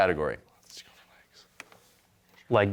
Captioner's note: team whispering